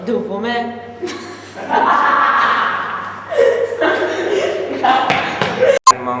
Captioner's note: laughter